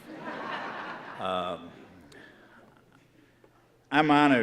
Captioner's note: audience laughing